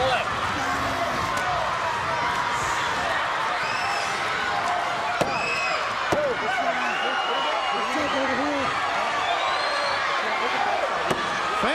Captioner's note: crowd cheering